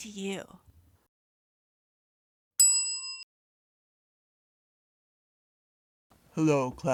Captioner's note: bell Sound